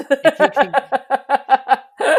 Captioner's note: laughs